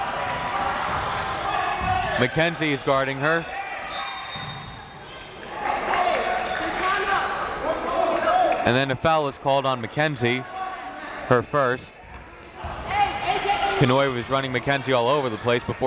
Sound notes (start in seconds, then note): 0.0 crowd members shouting; 3.9 whistle tweeting; 5.5 crowd members shouting